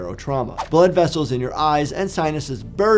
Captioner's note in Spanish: transición silbante